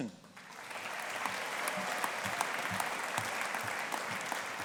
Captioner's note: audience applauding